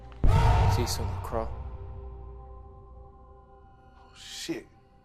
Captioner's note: scary bang